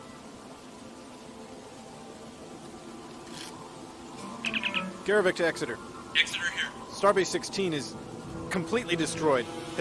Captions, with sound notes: Garrovick to Exeter. -[Cutty's comm voice] Exeter here. Starbase Sixteen is... completely destroyed!